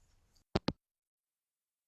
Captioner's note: hangup